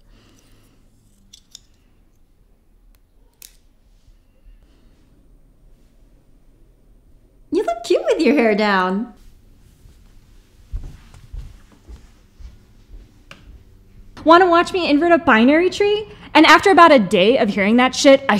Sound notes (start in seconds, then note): none